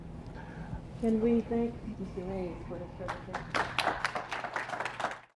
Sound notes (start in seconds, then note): 3.0 applause